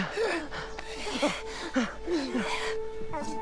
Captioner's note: both panting